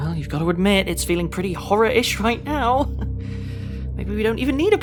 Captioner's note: chuckles